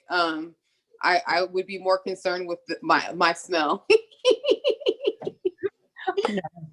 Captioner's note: laughs